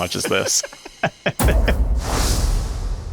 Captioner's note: laughing